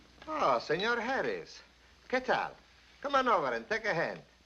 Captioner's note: speaking spanish